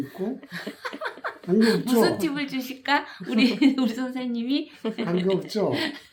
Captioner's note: laughs